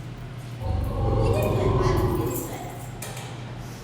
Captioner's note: lion growl